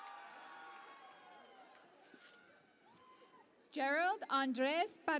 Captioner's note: cheering and Applause